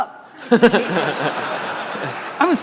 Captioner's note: audience laughter